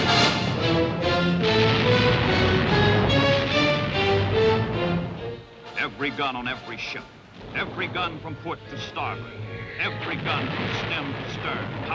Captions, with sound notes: (taut energetic music) (artillery firing) (taut energetic music) Every gun on every ship, every gun from foot to starboard,